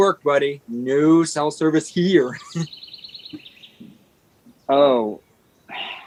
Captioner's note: laughs